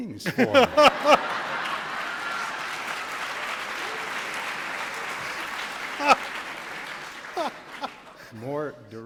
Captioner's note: laughter